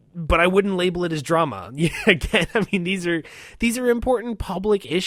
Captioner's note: laughs